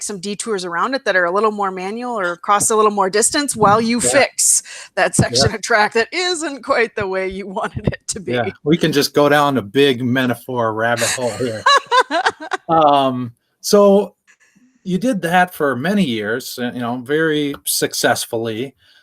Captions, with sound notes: some detours around it that are a little more manual or cross a little more distance while you fix that section of track that isn’t quite the way you wanted it to be. -We can just go down a big metaphor ride the whole bit. [laughter] You did that for many years very successfully,